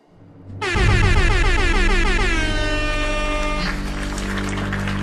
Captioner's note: horns blowing; audience applauds